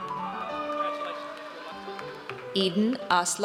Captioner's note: audience cheers